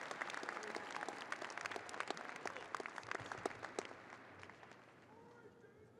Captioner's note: audience applauding and cheering